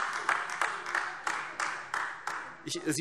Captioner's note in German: Beifall AfD